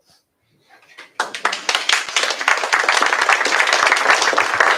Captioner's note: applause